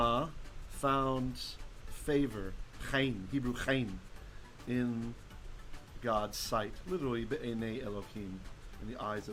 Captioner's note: Hebrew